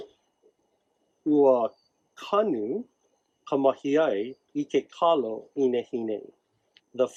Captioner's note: instructor speaks in native language